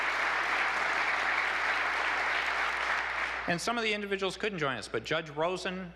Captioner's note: applause